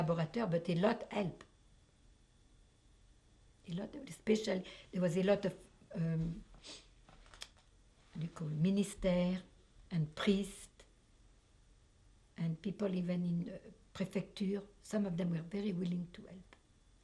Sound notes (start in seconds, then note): 5.6 pauses for 3 seconds